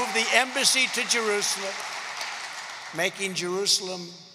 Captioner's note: applause